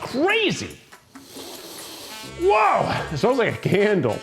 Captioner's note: sniffs loudly